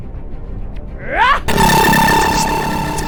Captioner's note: Xu Xang grunting; electricity crackling